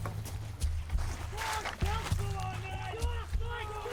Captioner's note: men yell